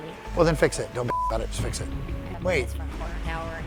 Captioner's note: beep